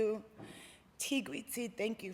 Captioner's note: non-english speech